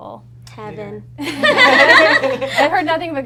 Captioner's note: all laugh